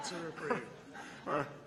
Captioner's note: laughter